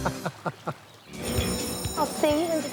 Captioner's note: laughter; school bell